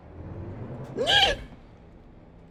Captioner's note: Screech